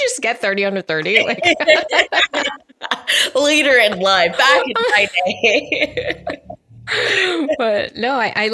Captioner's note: laughing